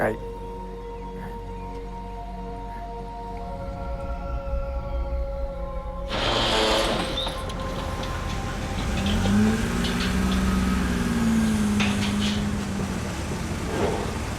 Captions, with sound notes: - Right, right. (dramatic ambient music) (engine rumbling)